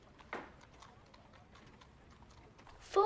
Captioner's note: horse trotting